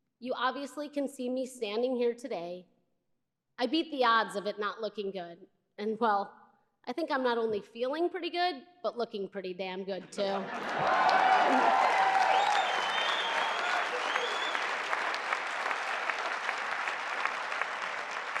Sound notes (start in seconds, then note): 10.4 cheering